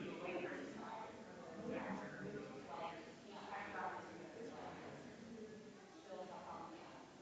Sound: people chattering distantly continues

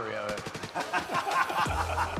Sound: laughter

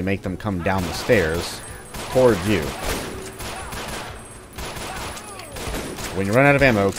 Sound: Glock pew pews; shotgun blasting

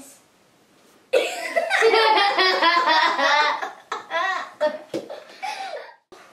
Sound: laughing

